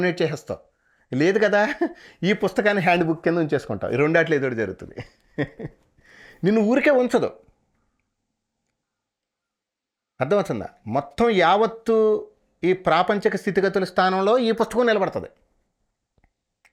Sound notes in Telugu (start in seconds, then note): 4.8 నవ్వు